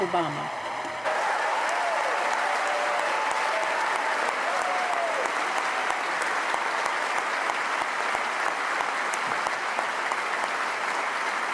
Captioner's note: cheers & applause